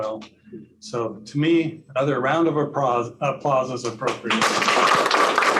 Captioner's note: applause